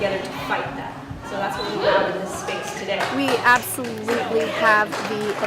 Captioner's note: cheering